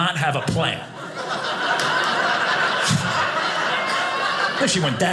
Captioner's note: audience laughing